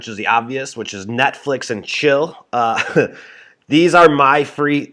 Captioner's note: chuckles